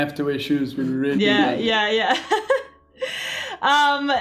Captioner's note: laughs